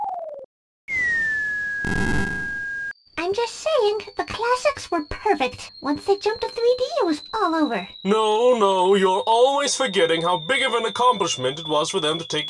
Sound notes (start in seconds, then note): 0.8 whistle